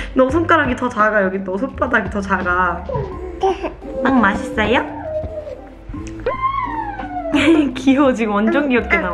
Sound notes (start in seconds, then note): 2.9 hehe